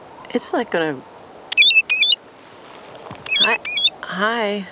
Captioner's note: bird calls